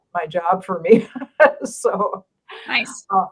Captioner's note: laughing